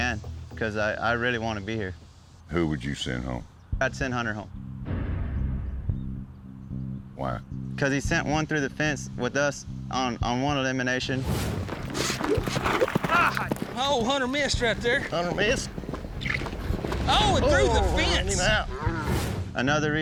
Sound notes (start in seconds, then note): 11.6 rope whirling